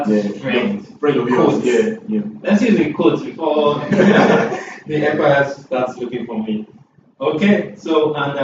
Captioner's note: laughs